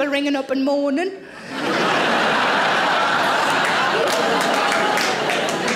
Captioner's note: audience laughing